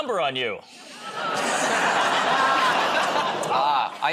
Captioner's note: laughter